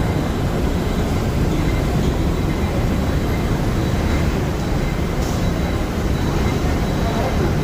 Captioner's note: mechanical hum of the moving walkway